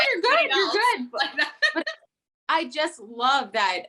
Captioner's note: laughing